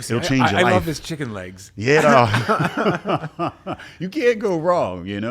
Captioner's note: laughs